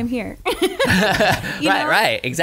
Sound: laughing

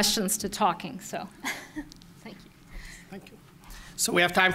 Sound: laughs

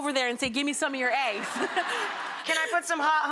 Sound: audience laughing

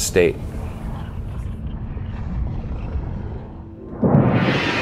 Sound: eruptions rumbling; dramatic music

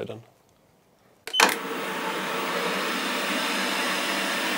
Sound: beep, machine starts up

